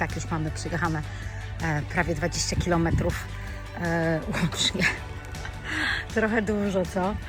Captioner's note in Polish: śmiech